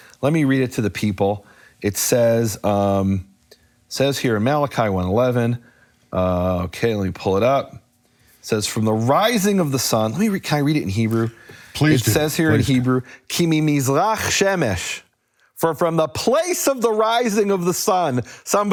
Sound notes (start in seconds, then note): 14.4 speaking in foreign language